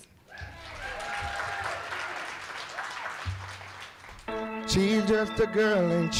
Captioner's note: cheering and applause